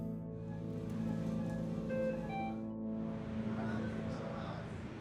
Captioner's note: suspenseful music continues; equipment beeping; faintly speaking